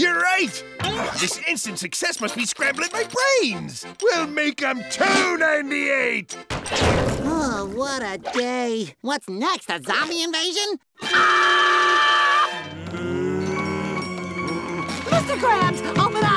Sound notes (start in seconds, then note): 10.8 screams; 12.6 groaning